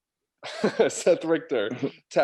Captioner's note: chuckling